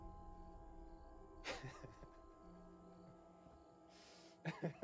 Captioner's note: crickets chirping; tense music; Ben laughs